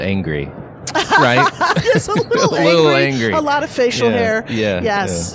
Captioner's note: laughs